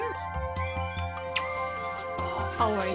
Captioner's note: kisses on cheek